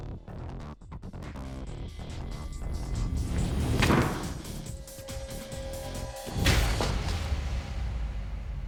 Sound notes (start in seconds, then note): 3.4 thudding